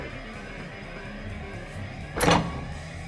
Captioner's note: alarm continues sounding; door opens